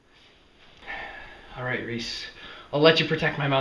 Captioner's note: Alex sighs